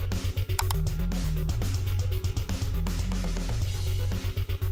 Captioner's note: camera clicking